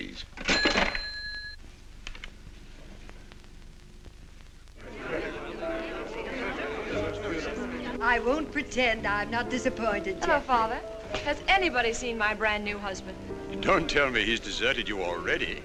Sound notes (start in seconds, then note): 0.4 cash register rings; 4.8 guests chattering